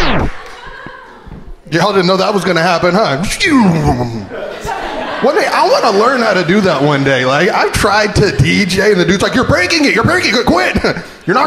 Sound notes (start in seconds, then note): 0.0 record scratching; 3.5 imitating record scratching